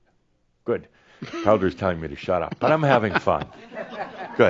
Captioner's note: chuckles